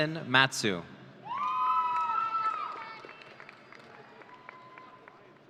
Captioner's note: audience cheering